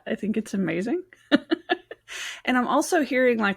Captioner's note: laughs